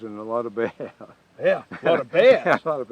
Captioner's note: laughing